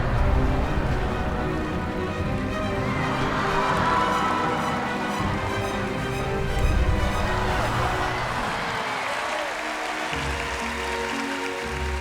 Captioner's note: applause